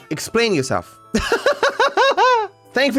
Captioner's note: laughs